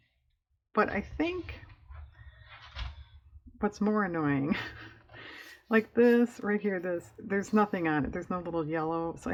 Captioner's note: laughs